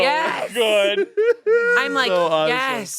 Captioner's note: they laugh